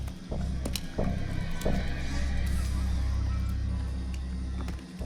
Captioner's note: footsteps tapping